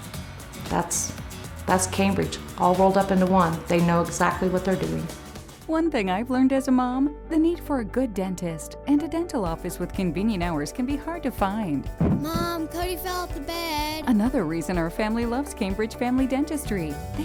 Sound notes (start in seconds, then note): 12.0 thump